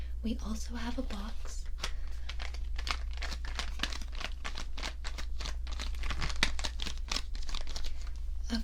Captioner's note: box crinkling